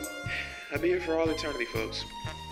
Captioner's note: sigh